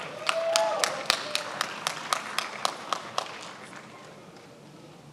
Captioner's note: attendees applauding